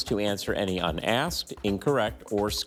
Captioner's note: none